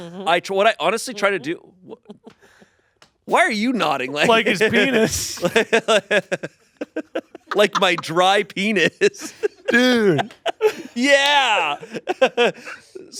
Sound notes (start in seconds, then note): 6.8 laughing; 12.0 laughs